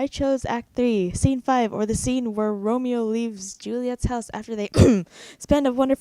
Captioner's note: cough